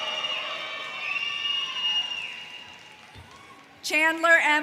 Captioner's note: audience cheers